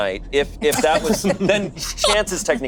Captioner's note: laughing